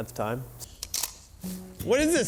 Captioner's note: gun clicks